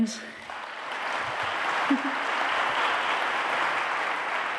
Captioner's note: applause